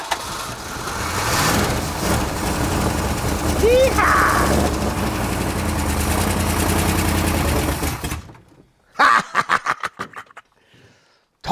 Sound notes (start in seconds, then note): 0.0 engine purrs; 8.9 laughs